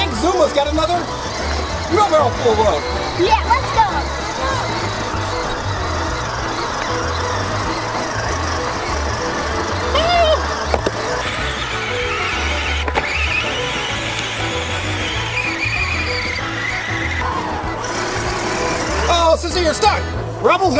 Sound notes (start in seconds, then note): 4.7 toy hauler moving